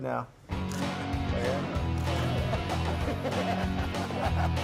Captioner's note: upbeat rock music; laughs